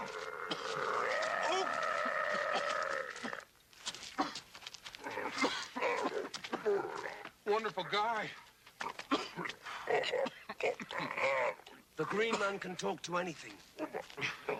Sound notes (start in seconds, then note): 0.0 Qahhar grunting; 2.0 Dan coughing; 8.8 Qahhar grunting